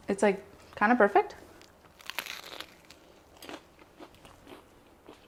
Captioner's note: bread crunching